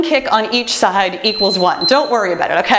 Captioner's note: timer beeps